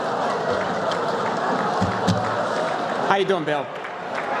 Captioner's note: laughter